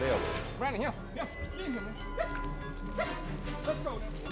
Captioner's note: yelping